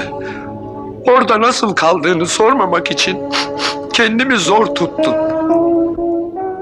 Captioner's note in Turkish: Burun çekme